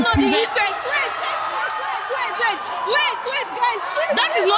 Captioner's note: sounds of pro-choice advocates